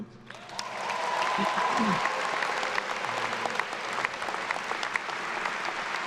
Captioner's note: attendees cheering and applauding